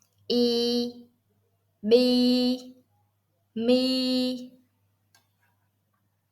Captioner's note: Vietnamese